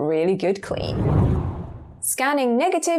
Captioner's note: video effect whooshes